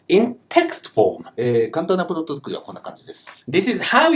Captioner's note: speaking Japanese